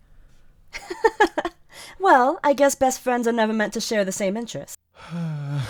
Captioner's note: Henry laughs; chuckling